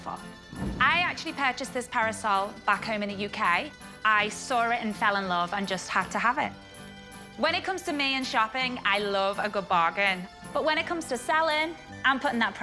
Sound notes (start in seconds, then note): none